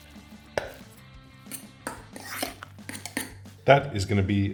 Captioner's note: fork mixing